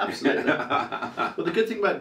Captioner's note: laughs